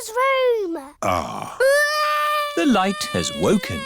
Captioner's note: crying